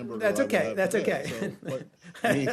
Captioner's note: laughter